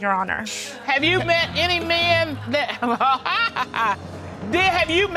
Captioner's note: laughs